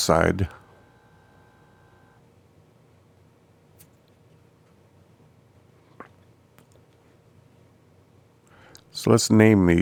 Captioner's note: silence